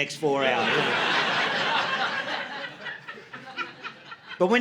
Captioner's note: audience laughing